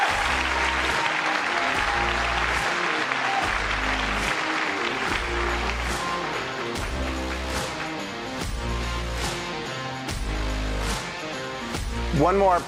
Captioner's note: applause